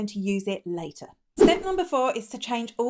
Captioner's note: air whooshing